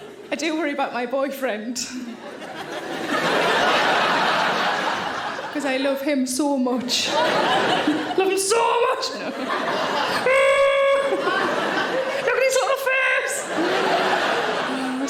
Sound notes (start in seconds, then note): 0.0 audience laughing; 2.0 audience laughing; 9.5 audience laughing; 10.3 Sarah groaning; 13.6 audience laughing